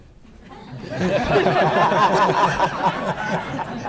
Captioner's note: laughing